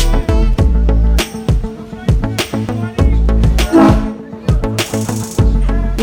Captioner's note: cruising music; cheering, and shouting, boat horn blows